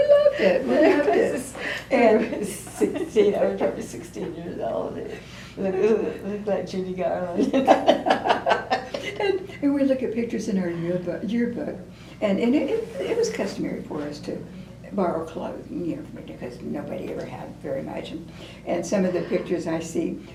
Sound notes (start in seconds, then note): 7.4 laughter